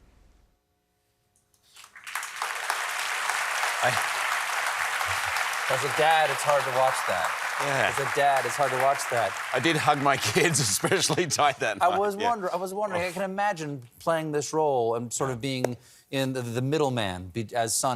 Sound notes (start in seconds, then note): 1.7 applause